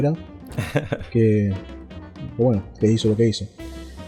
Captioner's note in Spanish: risas